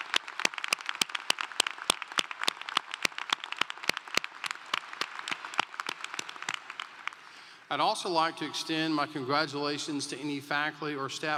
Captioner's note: applause